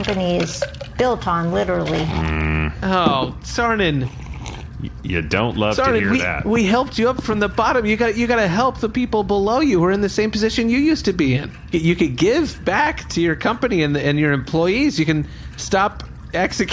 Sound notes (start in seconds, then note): 3.8 sips drink